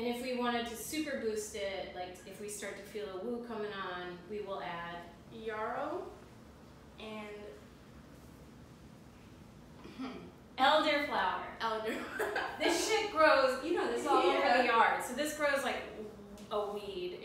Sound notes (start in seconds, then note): 12.0 laugh